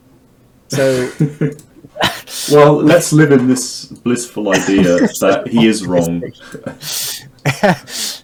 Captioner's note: laughing